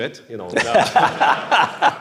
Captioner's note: laughter